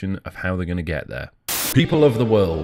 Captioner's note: static